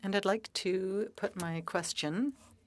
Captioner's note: speaking French